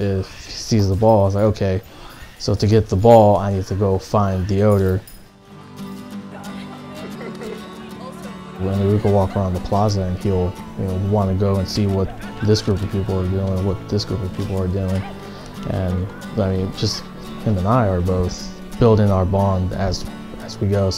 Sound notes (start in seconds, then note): 5.7 guitar music; 7.0 people talking and laughing